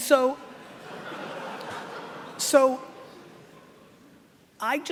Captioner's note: laughing